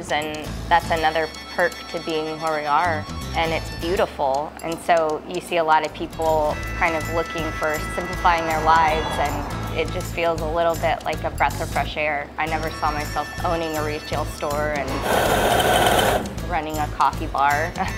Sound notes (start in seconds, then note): 14.9 coffee grinding